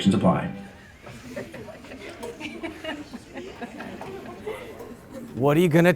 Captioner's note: laughter